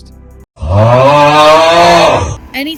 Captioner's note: exasperated groan